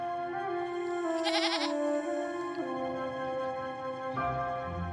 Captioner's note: goat bleating; somber music